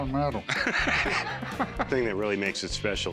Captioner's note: laughing